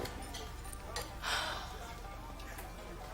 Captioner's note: sighs